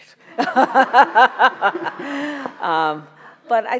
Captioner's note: laughs